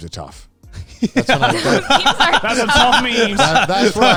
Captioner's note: all laughing